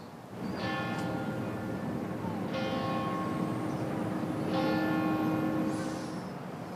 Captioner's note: sound of bells